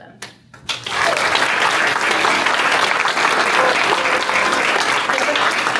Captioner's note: applause